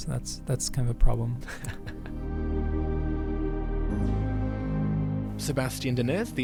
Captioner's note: voiceover